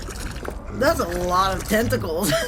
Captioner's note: A BABY ALIEN GOOS AND GAHS as HEAVY FOOTSTEPS pass